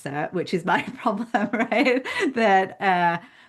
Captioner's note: laughing